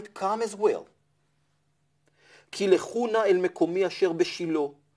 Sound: Hebrew

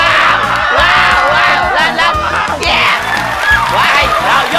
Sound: yelling; yelling

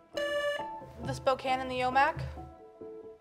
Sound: buzzer beeps

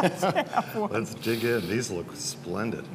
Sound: laughter

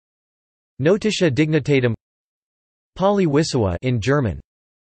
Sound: in German

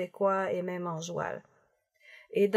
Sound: colloquial French

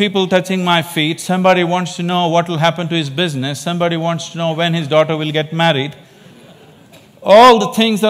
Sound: laughter

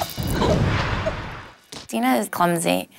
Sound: laughing; whooshing

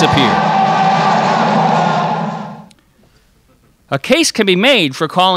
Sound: dramatic noise

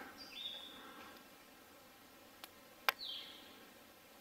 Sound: birds chirping

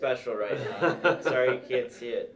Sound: laughs - Cross talk

